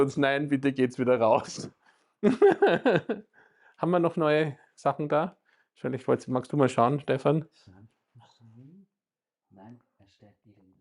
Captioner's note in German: gelächter